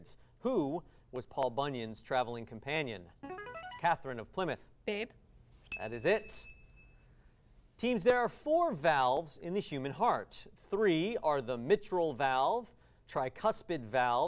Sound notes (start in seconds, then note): 3.2 device sound; 5.7 ding